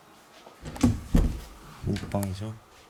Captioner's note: the sound of opening the door